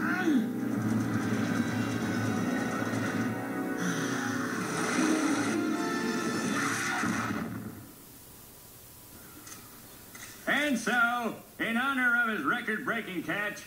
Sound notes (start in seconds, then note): 3.8 sigh of relief; 6.4 screams